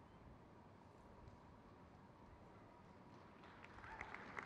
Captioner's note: crowd cheers